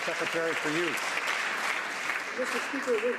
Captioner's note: some Applause